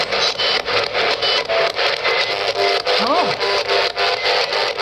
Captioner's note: equipment squeaking